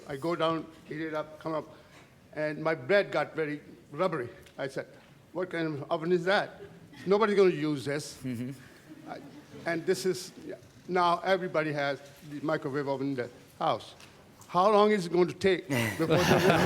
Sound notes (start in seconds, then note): 8.9 chuckling